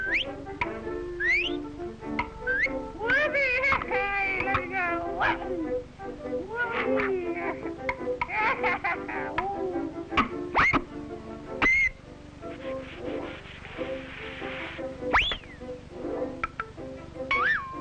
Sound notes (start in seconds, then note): 3.3 exclaims and babbles